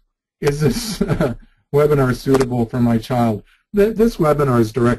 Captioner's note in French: rire léger